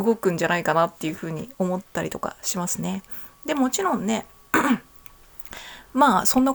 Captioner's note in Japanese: 咳払い